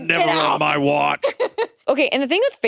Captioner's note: chuckles